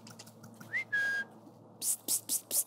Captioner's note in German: Pierre pfeift